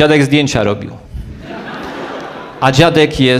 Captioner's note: laugh